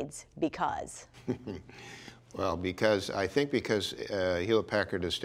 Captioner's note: chuckles